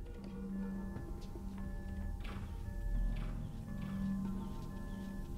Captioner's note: device beeping